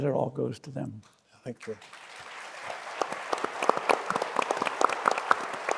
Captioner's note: audience applauding